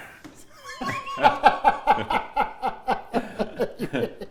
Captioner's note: laughter